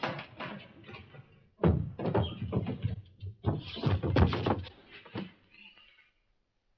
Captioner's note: clattering sound; thumping